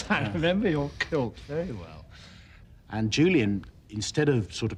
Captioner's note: laughter